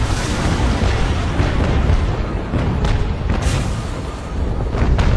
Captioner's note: explosions booming